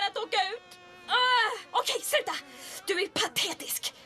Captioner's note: flies buzzing